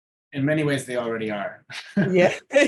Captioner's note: both laughing